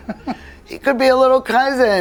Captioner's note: chuckles